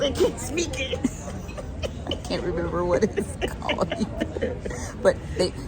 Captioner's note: laughing